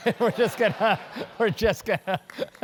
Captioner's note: laugh